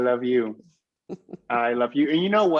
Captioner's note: laughs